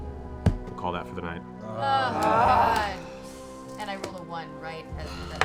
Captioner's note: groaning